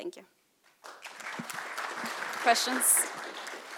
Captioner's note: applause